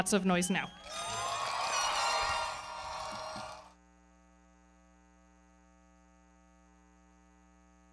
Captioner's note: audience cheering; everybody clapping